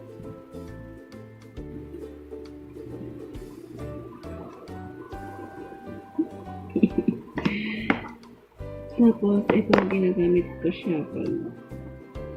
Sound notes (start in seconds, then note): 5.7 laugh